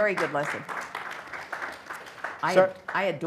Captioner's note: light applause